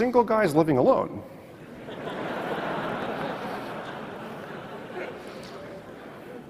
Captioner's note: audience laughs